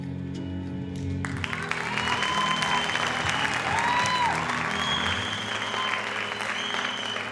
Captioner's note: audience applauding; audience cheering